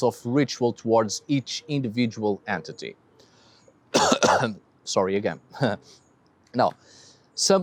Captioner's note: coughs